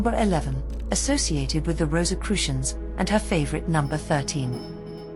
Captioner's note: bells rings